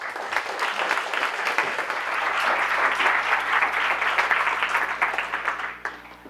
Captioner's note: audience Applause